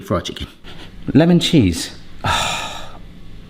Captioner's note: sniffing